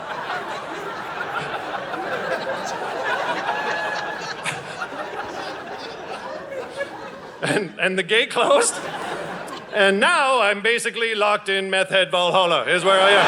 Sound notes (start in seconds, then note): 0.0 audience laughing; 8.1 audience laughing